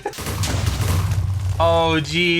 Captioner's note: giggling; explosions